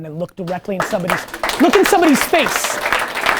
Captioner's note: team applause